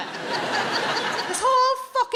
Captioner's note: audience laughing